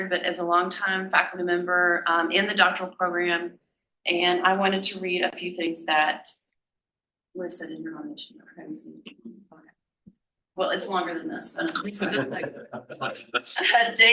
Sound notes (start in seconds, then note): 8.0 faintly speaking; 11.8 panel laughs